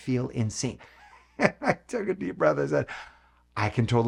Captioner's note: laughing